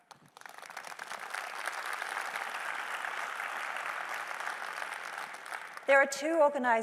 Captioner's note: applause